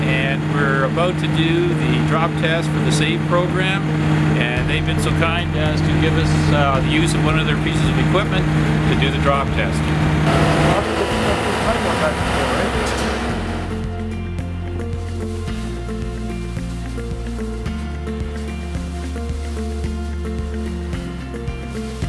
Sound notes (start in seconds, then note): 10.4 engine rumbling; 13.4 bright music continues